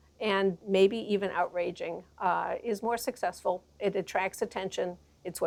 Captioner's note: none